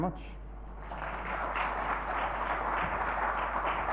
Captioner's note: applauding